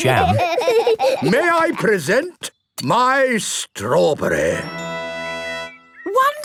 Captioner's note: laughing